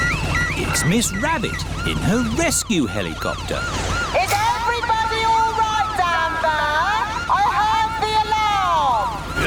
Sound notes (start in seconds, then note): 3.5 over megaphone